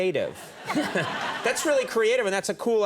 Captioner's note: audience laughing